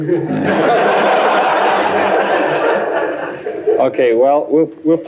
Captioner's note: laughter